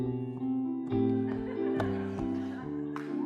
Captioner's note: laughter